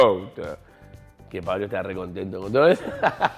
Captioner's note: laughs